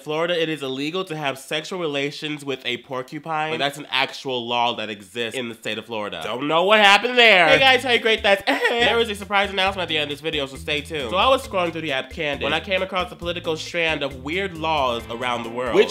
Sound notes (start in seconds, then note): 8.4 sex noise